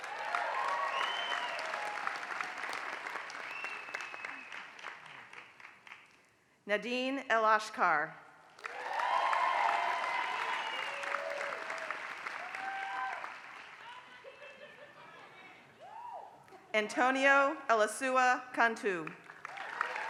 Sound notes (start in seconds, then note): 0.0 applause; 8.5 applause; 19.0 applause